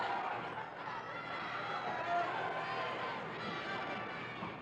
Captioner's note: crowd chattering